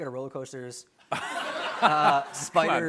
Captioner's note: laughter